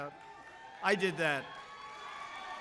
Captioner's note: applause